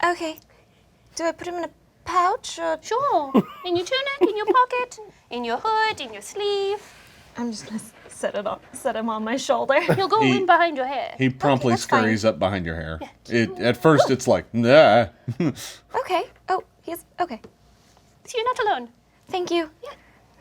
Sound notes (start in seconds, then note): 13.9 softly cries out with discomfort